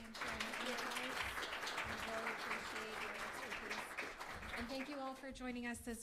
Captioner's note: applause